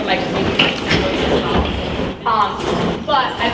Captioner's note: doors closing, stomping